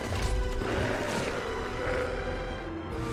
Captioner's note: roars